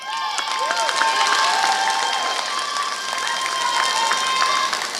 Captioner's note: applause